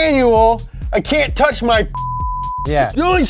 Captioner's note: beep